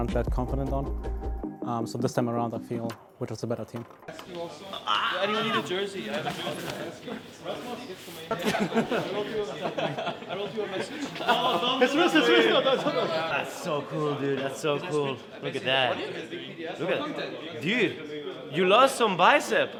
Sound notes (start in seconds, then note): 5.3 indistinct team chatter and laughter; 11.9 falsely panicked